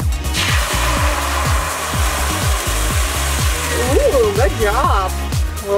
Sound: eggs sizzle

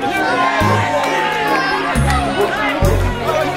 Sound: cheers

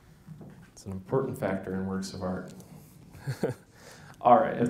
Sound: laughs

